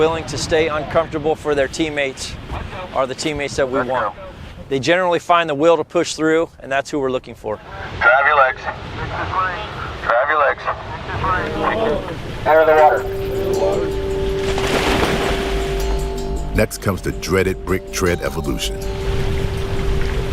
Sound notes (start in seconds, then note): 11.4 men grunting; 12.5 mildly tense music; 13.8 water splashing